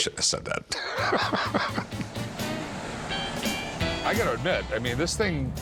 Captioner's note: chuckles